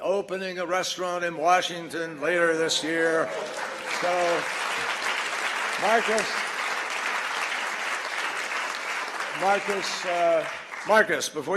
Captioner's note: applause